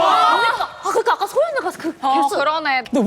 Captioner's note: the crowd goes wild over misstep